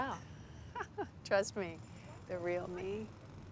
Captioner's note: laughs